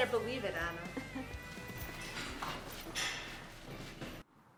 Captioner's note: Ana laughs